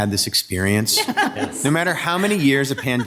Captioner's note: participants laughs